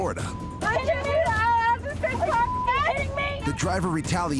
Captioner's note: overlapping chatter